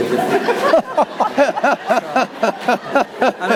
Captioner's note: all laugh